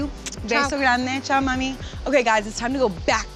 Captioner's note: speaking foreign language